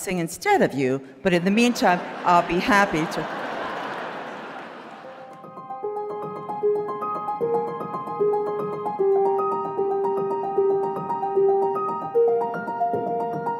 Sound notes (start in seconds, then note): 3.5 audience laughing; 5.2 bright music